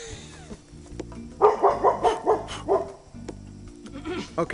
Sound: laughs; barking

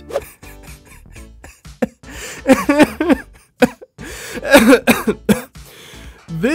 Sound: laughing

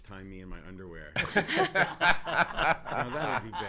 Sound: laughs

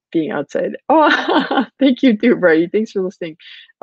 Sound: chuckles

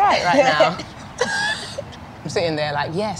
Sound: laughing

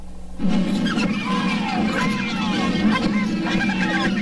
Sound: parade noises

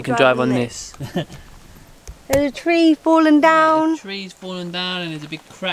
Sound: laughs

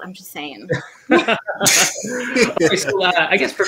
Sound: laughing

